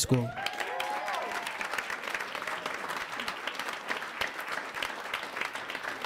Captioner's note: audience cheers; audience applauds